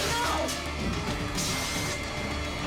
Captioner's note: dramatic music; pepper spray hissing